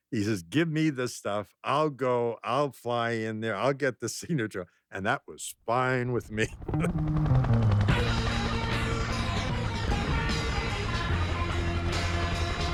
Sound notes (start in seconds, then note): 6.5 laughs; 6.6 rock music